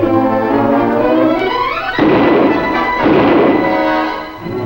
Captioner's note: gunshots firing